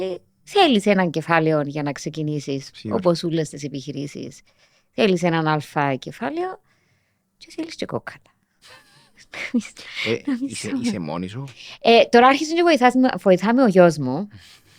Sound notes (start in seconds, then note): 10.0 he laughs; 14.5 he laughs